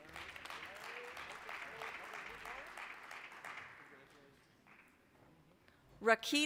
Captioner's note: applause